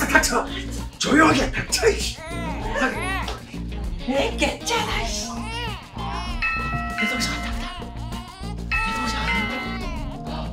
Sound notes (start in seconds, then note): 6.4 bell rings